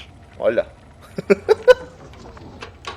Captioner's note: giggles